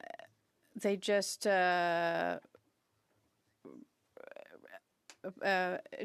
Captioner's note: speaking French